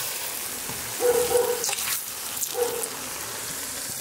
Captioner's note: dog barking in the background